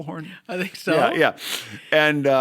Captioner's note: chuckle